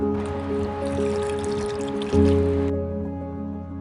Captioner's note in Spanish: Agua cayendo de regadera